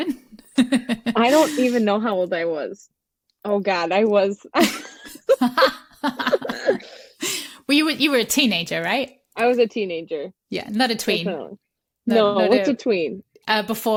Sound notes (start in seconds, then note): 4.6 laughter